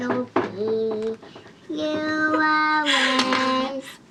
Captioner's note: laughing